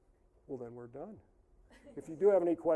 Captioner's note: audience chuckling